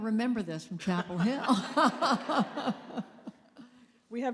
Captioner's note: laughter